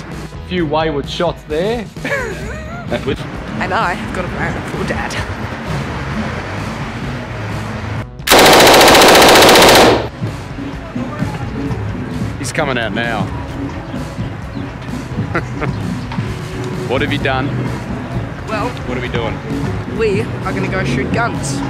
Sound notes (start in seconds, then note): 2.0 laughs; 8.2 gun rapidly firing; 15.2 chuckles